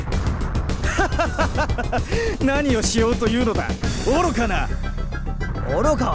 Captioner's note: laugh